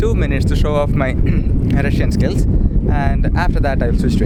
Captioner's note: ahem